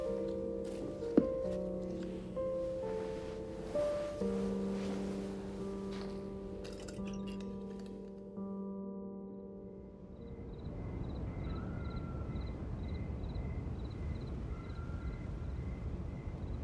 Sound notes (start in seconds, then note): 10.2 insects chirping